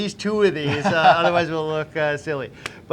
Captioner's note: laughing